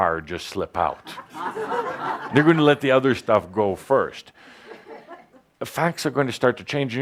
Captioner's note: laughter